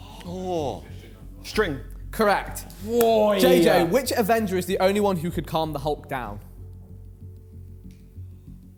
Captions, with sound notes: - Oh! - String. - Correct. - Whoa! (claps) - JJ, which Avenger is the only one who could calm the Hulk down?